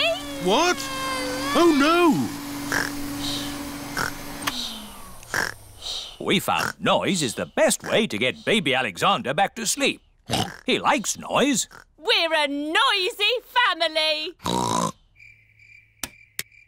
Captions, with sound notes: What? Oh, no. (SNORES) (WHIRRING STOPS) We found noise is the best way to get Baby Alexander back to sleep. -(OINKS) He likes noise. -We're a noisy family! (OINKS)